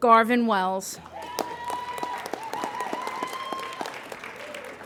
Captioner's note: applauding